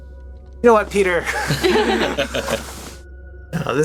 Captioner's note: laughter